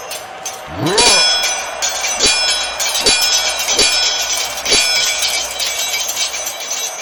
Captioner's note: both grunting; swords clanging